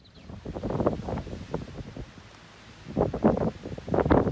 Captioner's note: wind howling